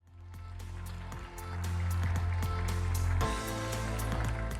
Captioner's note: audience applauding